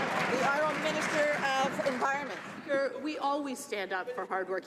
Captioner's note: some Applause